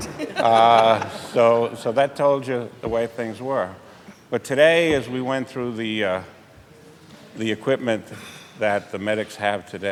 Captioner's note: laughter